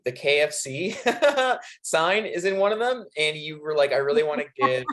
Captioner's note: laughing